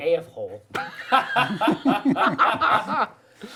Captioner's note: laughing